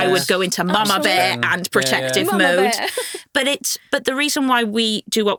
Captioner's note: chuckles